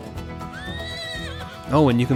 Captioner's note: horse whinnying